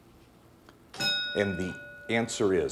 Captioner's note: bell dinging